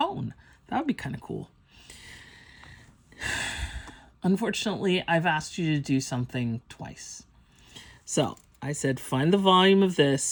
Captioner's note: sighs